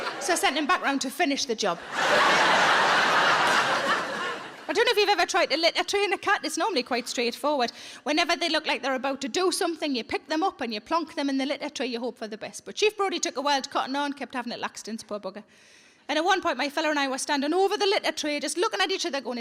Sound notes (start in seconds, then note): 1.7 audience laughs